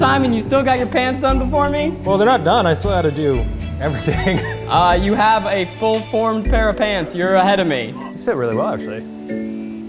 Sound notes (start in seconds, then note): 3.9 chuckling